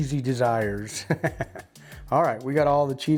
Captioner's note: chuckles